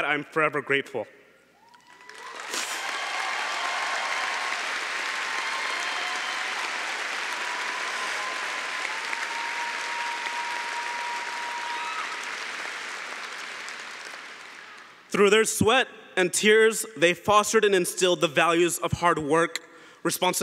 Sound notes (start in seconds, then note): 5.6 cheering & Applause